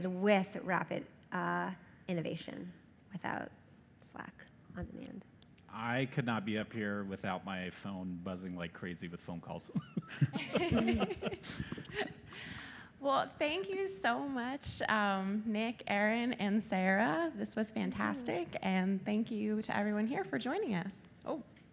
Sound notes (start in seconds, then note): 9.7 laughter